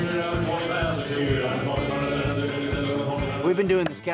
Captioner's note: auctioneer speaking rapidly